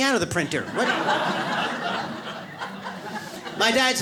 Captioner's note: audience laughs